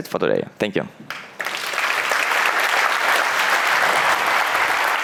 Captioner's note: applause